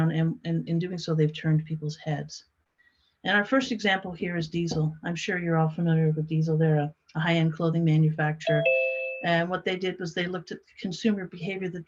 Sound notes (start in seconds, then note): 8.4 computer notification